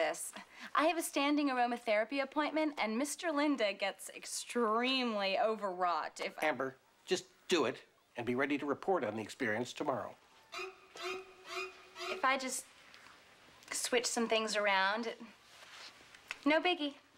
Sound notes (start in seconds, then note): none